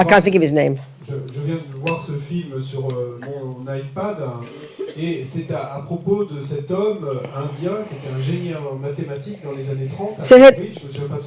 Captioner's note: French